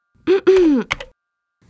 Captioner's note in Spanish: hmm... hmm